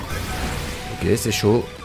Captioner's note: low HP sound